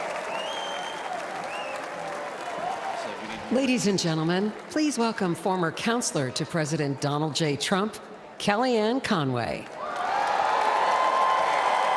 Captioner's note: cheering and applause